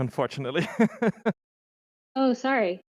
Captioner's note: laughs